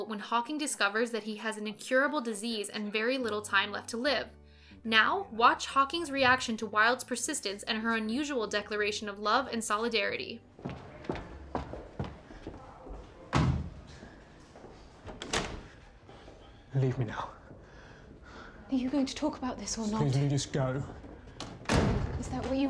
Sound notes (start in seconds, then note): 10.5 footsteps tapping; 13.3 thudding